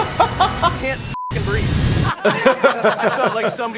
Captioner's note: laughs; beep; all laughing